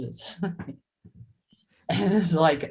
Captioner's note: Joy chuckles